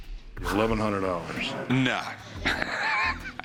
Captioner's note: laughing